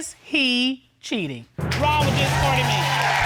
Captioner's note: audience cheering